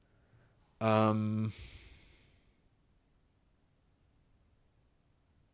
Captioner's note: silence